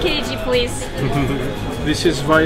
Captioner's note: chuckling